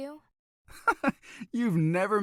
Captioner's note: laughs